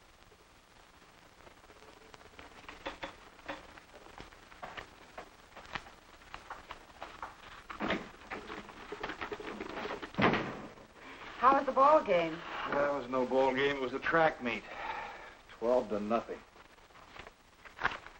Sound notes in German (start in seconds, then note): 10.1 Tür schlägt zu